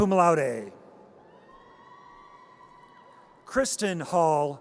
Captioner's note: audience cheers